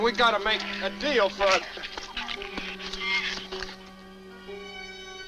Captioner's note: shrews chatter